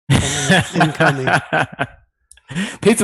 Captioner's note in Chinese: 笑声